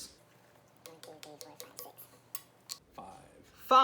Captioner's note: fast Forwarded Sounds